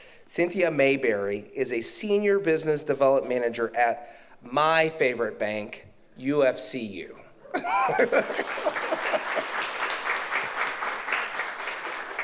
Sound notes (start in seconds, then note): 7.5 laughs; 7.9 audience applauds